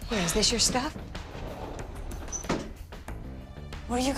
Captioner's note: door rattles shut